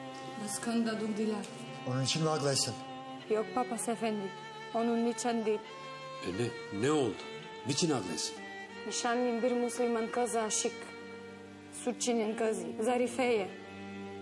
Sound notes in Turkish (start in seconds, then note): none